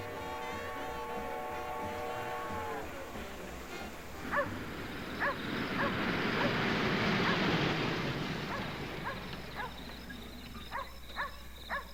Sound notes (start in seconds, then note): 4.2 dog barking